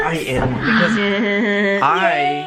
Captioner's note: chuckles